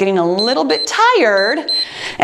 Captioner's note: timer beeps